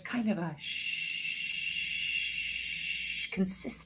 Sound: hissing

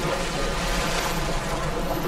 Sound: splash

